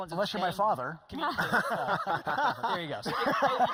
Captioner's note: laughing